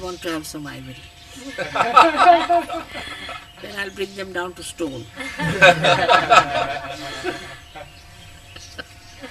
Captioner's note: laughter